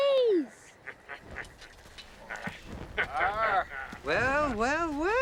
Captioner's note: men chuckling